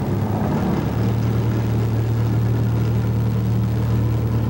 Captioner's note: boat motor running